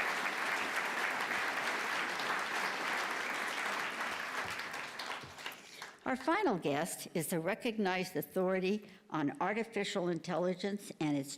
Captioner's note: applause